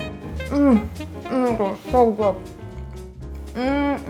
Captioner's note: joyful music; moans